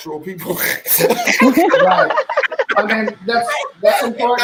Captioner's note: laughing